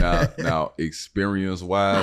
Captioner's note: laughing